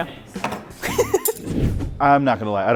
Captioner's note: laughs